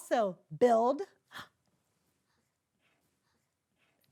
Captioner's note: Mrs. Colon gasps